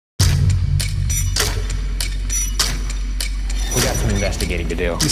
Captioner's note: screeching like a pterodactyl in a zoom meeting